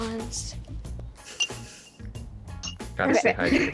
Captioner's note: sips drink